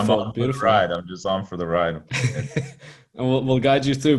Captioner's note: chuckling